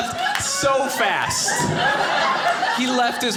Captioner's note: audience laughing